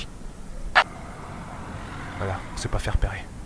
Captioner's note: car driving past